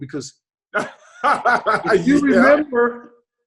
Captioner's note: David laughs